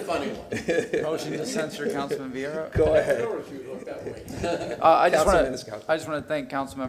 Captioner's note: laughter